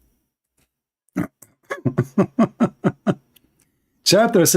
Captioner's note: Ketawa